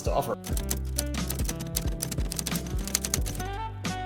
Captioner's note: keys clacking